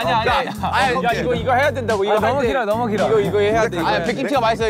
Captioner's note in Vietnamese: Bahahah